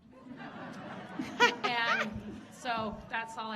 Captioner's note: audience laughing